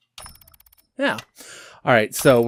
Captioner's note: apartment ambience begins: whirring and slow ticking of a clock